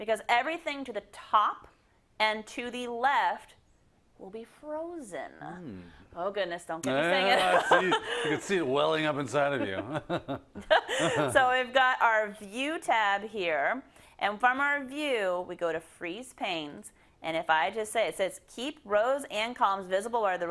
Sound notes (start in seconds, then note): 7.1 laugh; 11.9 laugh